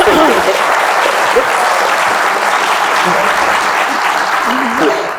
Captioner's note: laughs; laugh; applauds